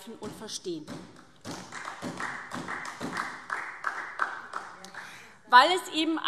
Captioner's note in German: Beifall SPD